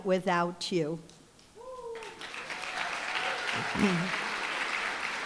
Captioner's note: applause, cheering